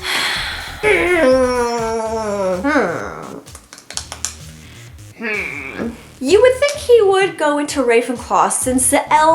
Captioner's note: sighs; grumbles; softly smacks face